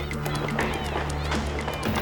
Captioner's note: clamoring voices